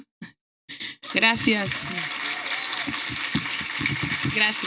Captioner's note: applause